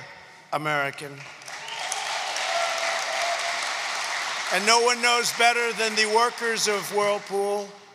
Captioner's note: applause